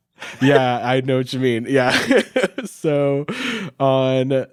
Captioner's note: chuckles